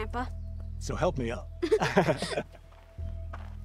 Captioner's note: both laugh